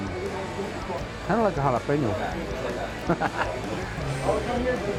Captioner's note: laughs